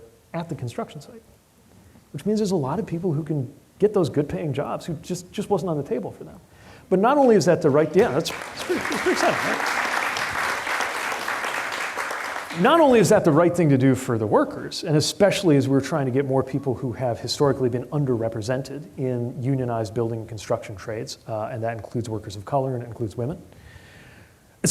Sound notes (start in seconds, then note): 8.0 applause